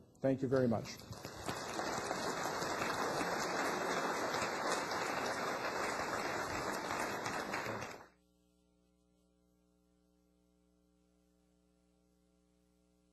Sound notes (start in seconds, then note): 0.8 applause